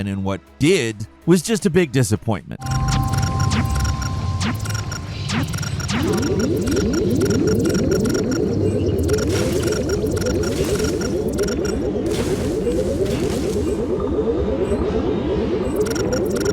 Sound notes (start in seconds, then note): 2.8 laser blasting; 5.9 force field warbling